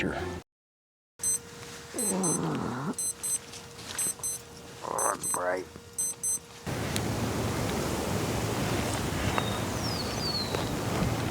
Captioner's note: groan; alarm beeping